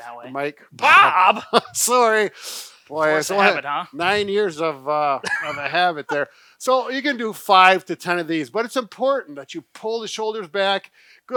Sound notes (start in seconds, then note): 0.8 laughs